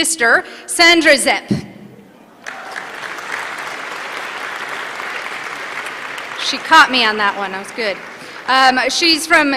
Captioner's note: applause